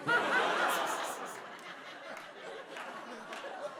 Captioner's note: laughter